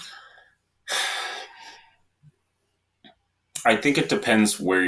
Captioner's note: sighs